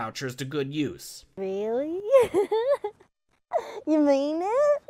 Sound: giggles

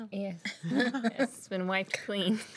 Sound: girls laughing

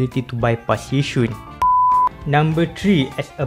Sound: beep

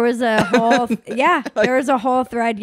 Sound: laughs loudly

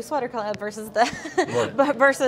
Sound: laughs

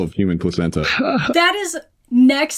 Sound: laughs

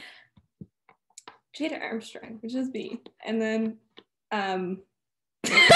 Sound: laughter

